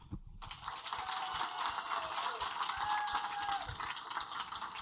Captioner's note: audience applaud